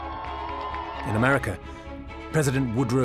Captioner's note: crowd cheering